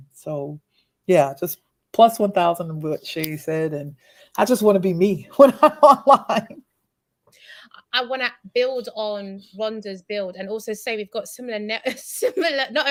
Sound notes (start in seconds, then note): 5.4 laughs